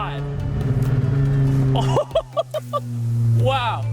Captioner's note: car engine revving; laughing